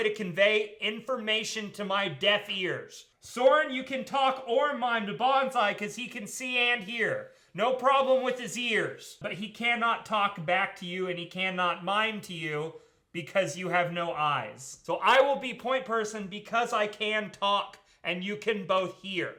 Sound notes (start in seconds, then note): none